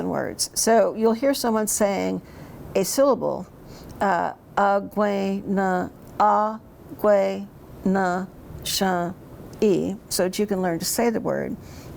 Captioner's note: speaks in Cherokee